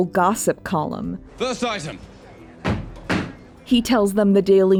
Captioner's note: stamps foot